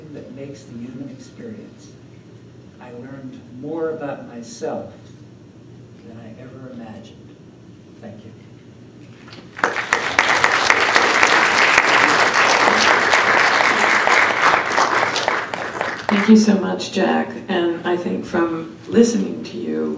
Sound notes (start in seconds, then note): 9.3 applause